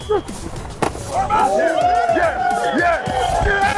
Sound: helmets clacking

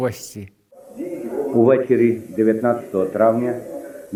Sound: voice from news

